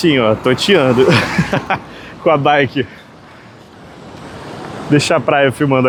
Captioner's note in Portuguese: risadas